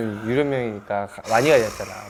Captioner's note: phew